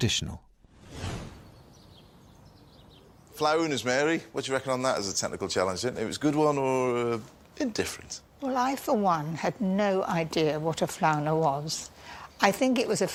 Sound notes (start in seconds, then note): none